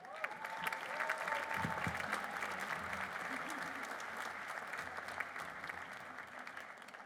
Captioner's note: applause